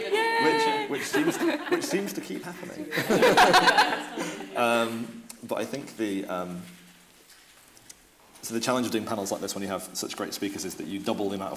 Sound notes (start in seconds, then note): 2.9 laughing